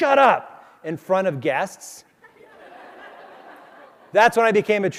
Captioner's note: crowd laughs